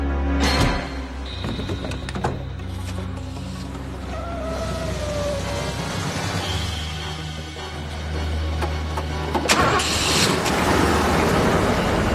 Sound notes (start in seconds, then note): 4.6 tires squealing; 7.8 exciting music